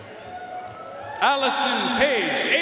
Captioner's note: audience cheering and applauding